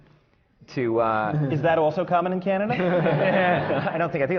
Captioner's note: laughter